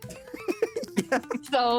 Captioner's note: laughter